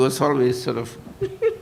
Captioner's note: laughter